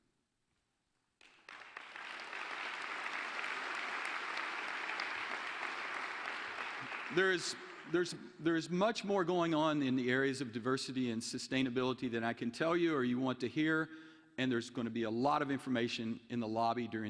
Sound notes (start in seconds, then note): 4.8 applause